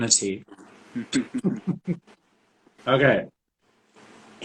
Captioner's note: both chuckling